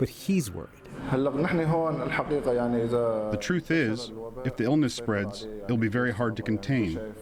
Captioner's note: through translator